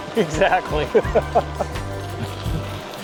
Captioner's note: laughing